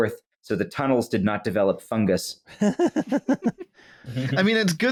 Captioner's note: laughs delightfully